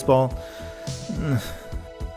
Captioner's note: weak grunt